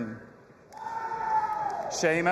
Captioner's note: audience applauding and cheering